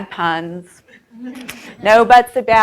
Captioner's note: audience chuckles